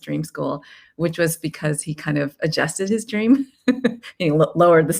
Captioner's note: laughs